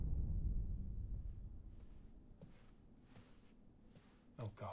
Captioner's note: footsteps approach